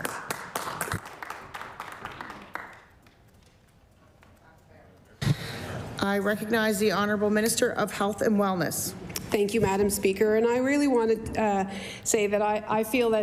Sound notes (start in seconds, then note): 3.4 applause